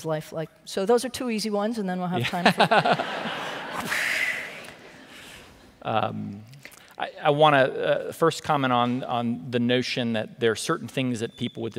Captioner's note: laughter